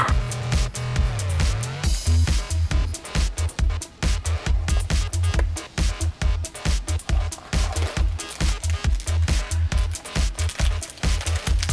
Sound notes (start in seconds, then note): 0.1 techno music; 7.5 crunching wrapper